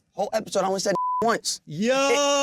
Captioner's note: beep